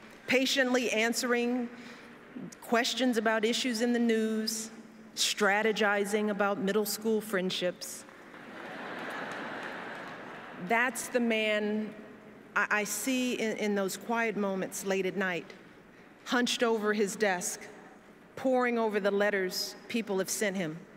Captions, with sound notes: patiently answering questions about issues in the news, and strategizing about middle school friendships. [Laughter] That’s the man I see in those quiet moments late at night, hunched over his desk, poring over the letters people have sent him.